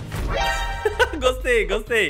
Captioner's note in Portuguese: risos